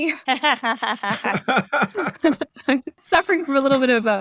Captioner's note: laughter